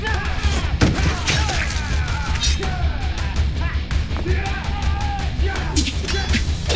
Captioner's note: thudding; guts squishing